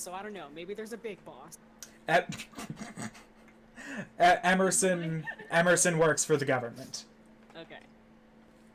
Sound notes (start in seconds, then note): 2.7 snorts